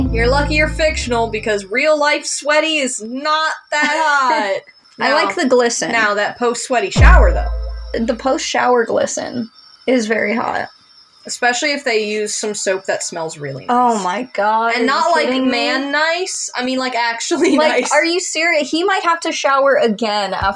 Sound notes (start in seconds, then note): 4.4 laugh